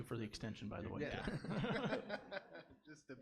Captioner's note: laughs